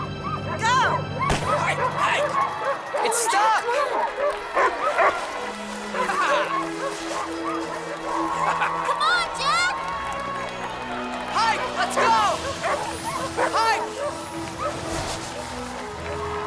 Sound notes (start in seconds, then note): 1.2 gun fires; 2.6 dogs barking; 8.6 Heep laughs